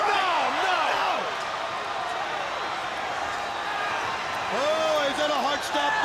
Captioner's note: crowd chatter